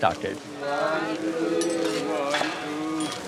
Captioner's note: chanting